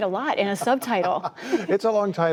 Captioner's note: laughter